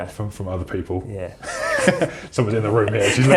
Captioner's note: laughs